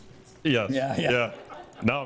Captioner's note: group laughs